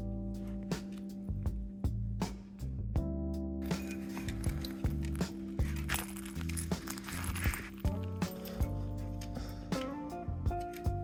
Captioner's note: miscellaneous dog noises